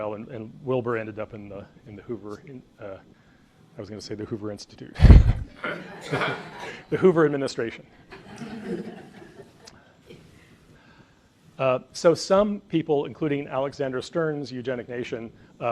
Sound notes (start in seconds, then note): 5.0 laughs; 5.5 audience laughs